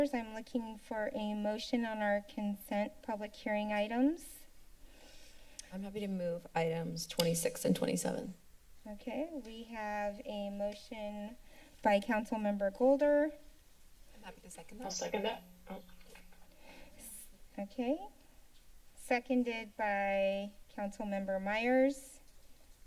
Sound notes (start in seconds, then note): 16.8 typing sound